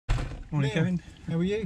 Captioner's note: door slams